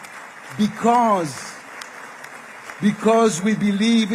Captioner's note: applause